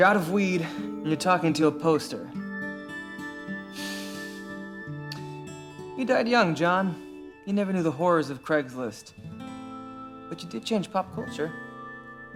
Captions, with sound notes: You’re out of weed and you're talking to a poster. (exhales) You died young, John. You never knew the horrors of Craig's List. But you did change pop culture.